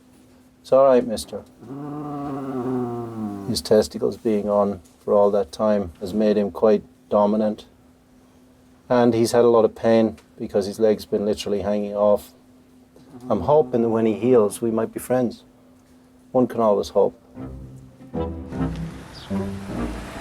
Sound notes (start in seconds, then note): 1.6 Elmo growling; 17.3 gentle music